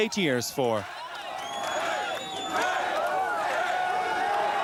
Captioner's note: people cheer